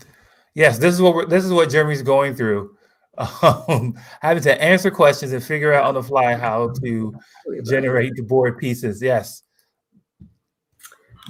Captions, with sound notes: Yes. This is what Jeremy is going through. [LAUGHS] Having to answer questions and figure out on the fly how to generate the board pieces. Yes.